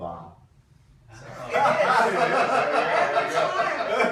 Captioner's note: laughing